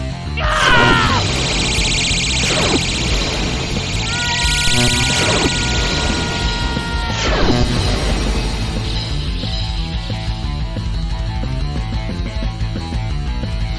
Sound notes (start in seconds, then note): 0.4 woman grunting; 5.8 dramatic music; 5.8 woman shouting